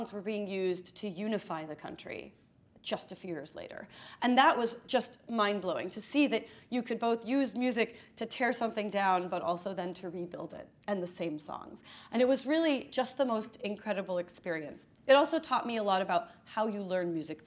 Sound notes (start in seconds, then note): none